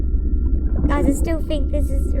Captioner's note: underwater movement